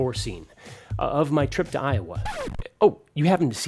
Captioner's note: record scratches